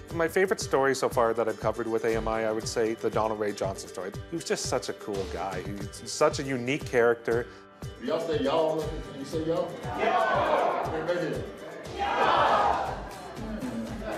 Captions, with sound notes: My favourite story so far that I've covered with AMI, I would say, the Donald Ray Johnson story. He was just such a cool guy. He's such a unique character. can Do ya'all say ya'all... you say ya'all? (crowd) Ya'all. And again. (crowd) Ya'all.